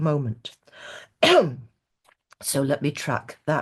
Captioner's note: clears throat